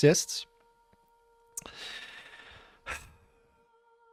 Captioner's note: sigh of infinite despair